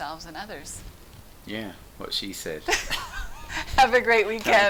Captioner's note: chuckles